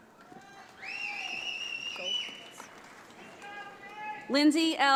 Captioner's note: audience applauds